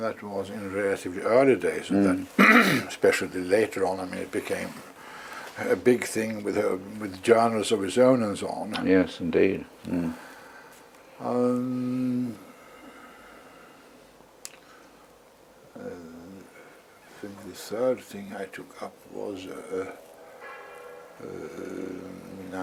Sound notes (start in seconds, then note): 2.3 cough